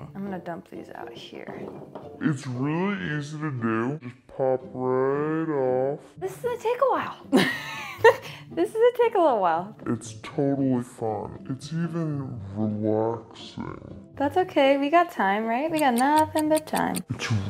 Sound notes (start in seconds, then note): 7.4 laughing